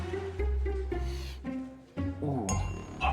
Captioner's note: Oliver sniffing